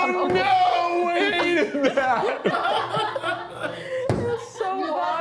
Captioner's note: crew laughs